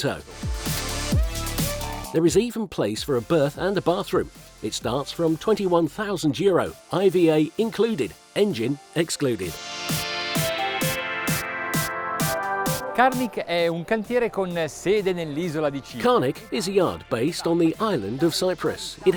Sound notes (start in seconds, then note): 0.0 techno music; 9.8 techno music; 13.1 foreign language